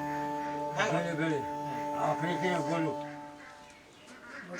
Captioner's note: speaking in local dialect